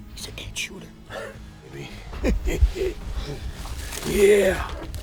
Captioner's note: chuckling